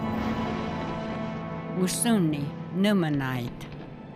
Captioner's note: in Native language